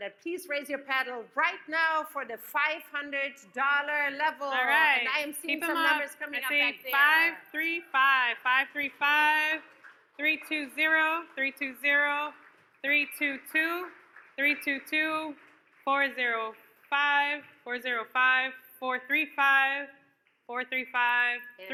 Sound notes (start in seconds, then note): 9.9 audience claps